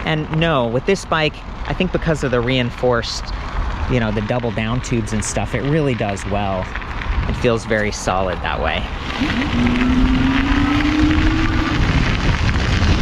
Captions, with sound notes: And no, with this bike I think because of the reinforced, you know the double downtubes and stuff, it really does well. It feels very solid that way. (motor revving)